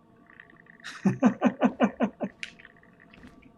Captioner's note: chuckles